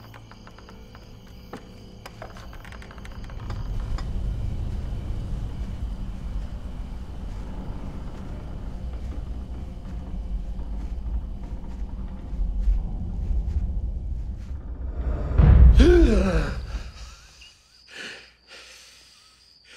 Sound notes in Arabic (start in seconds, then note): 15.8 تلهث